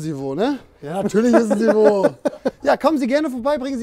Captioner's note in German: Lachen